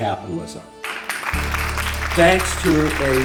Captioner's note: audience applauds